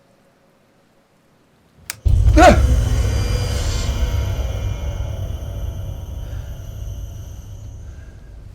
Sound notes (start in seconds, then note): 1.9 eerie music; 2.3 gasps